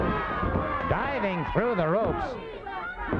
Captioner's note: body thudding; hands thudding